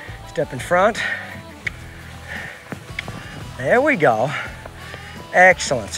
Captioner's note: mouth clicking